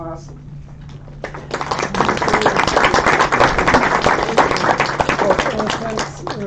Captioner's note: applause